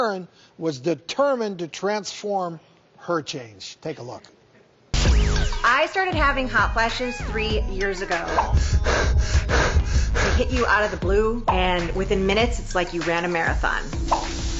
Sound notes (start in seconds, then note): 8.4 heavy breathing; 14.4 sizzling